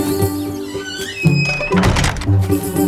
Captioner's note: birds; door creaks shut